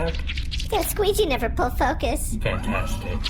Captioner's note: mop noises; mop noises fade into the distance